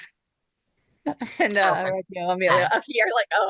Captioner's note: laughs; speaks faintly; laughs